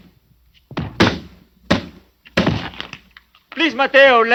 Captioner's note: thudding